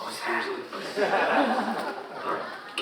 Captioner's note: audience laughing